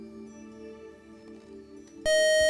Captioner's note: buzzer